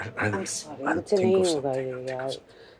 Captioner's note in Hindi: none